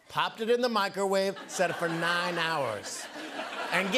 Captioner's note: laughter